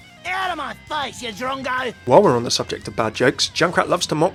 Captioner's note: voiceover